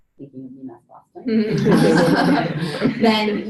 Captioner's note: panel laughs